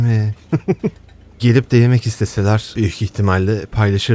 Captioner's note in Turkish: kahkaha